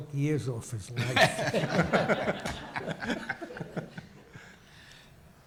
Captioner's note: audience laughs